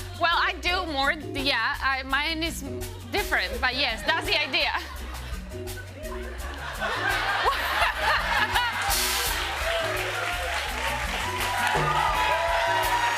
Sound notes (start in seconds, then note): 6.7 laughter; 10.1 cheers and applause